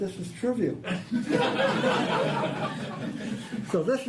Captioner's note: audience laughing